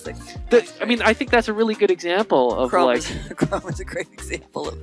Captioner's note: laughing